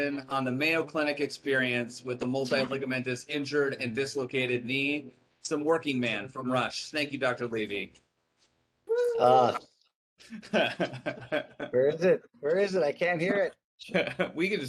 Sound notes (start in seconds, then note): 10.4 laughing